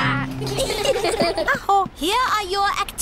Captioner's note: all giggle